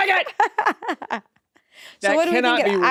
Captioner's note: laughs